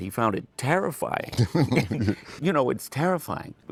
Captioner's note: laughter